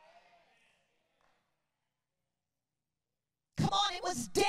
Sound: congregants cheer

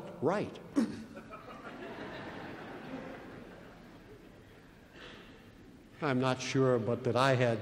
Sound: laughter

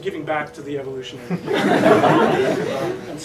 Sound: laughing

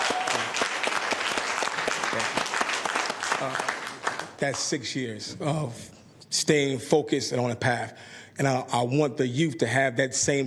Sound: applause

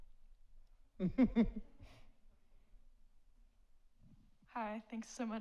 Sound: laughs

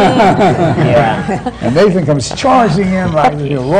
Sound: laughter

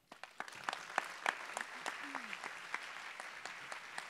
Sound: applause

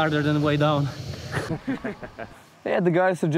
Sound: laughter

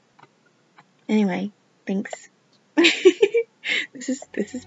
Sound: laughs

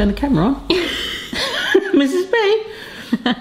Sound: laughing

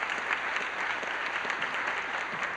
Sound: applause

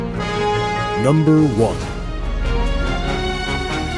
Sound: triumphant orchestral music; voiceover

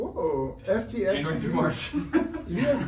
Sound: laughs

